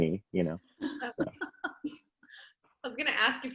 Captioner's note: laughing